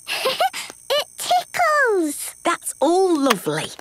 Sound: giggles

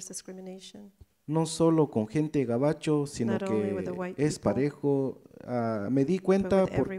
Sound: speaks in foreign language

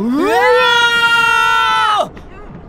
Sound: panicked yells

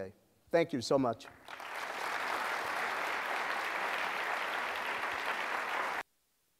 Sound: applause

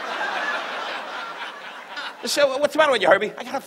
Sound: audience laughs

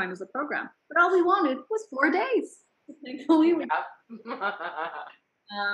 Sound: laughs

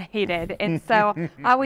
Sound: chuckles

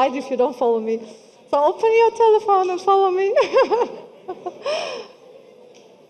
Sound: laughing

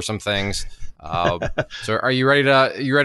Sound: laughs

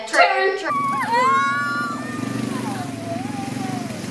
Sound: whooping

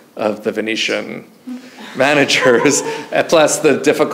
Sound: chuckles; audience member laughs

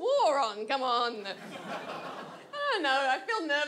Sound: audience laughs

